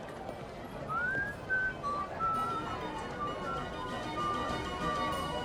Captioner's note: whistling